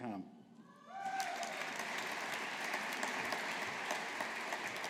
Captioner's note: audience applauding